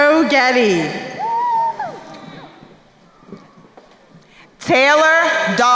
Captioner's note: crowd cheering